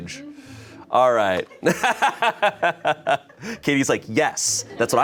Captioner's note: laughs